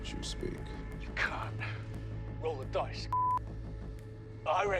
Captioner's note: beeping